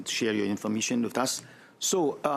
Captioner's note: speaking French